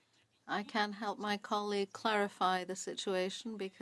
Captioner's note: speaking French